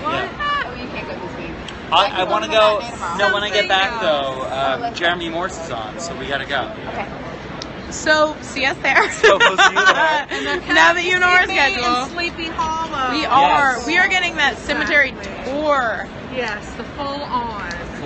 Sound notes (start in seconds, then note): 0.2 giggling; 8.9 laughing; 9.0 laughs